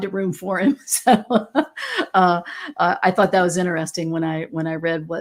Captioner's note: laughs